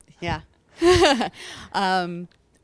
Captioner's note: laughing